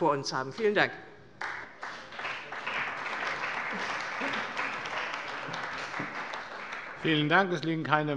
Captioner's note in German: Beifall bei der CDU und bei Abgeordneten des BÜNDNISSES 90/DIE GRÜNEN